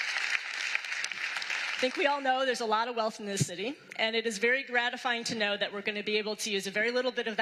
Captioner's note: applause